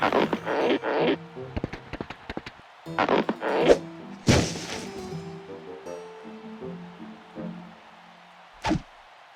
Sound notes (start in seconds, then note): 2.3 falling noise; 5.8 distant cheers and applause